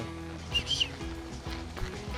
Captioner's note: whistling